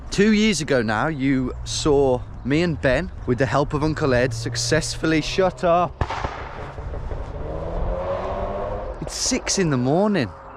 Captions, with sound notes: Two years ago now, you saw me and Ben, with the help of Uncle Ed, successfully shut up- (engine backfires) (engine revving) It's six in the morning.